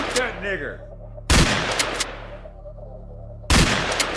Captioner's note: gunshot blasting; gunshots blasting